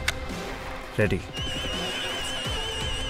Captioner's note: Sirens